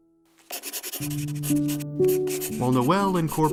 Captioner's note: pencil scratching; poignant piano music